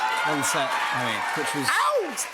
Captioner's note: cheers and applause